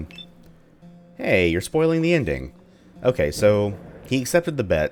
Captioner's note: thunder